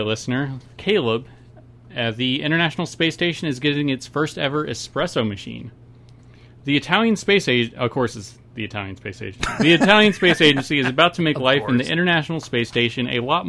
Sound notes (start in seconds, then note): 9.4 laughs loudly